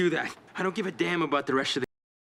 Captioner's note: none